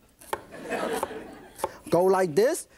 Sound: laughter

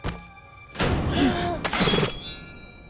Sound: gasps

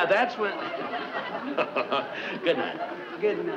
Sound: Brad laughs

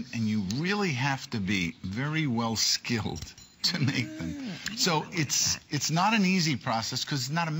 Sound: laughter

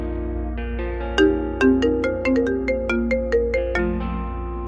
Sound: mobile phone ringing

